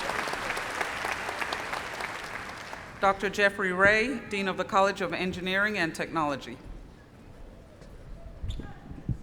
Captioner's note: applause